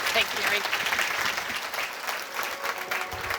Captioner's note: applause